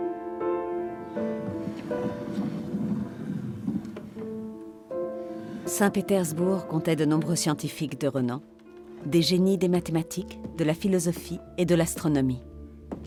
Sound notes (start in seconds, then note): 0.8 gentle music continues; 1.2 globe rumbles